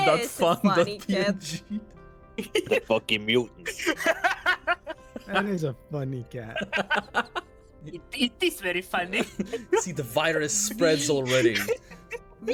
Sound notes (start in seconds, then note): 6.4 laughs